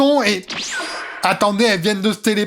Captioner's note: Dragon Ball Z teleportation